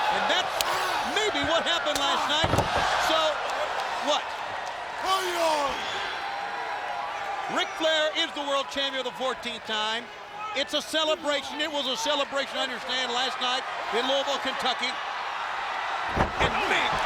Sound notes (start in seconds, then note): 5.0 audience cheering